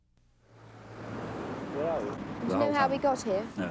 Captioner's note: background car noises